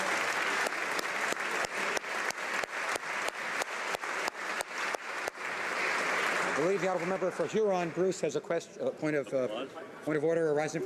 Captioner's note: applause